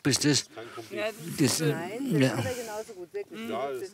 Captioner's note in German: Er schnauft